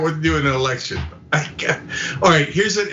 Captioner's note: laugh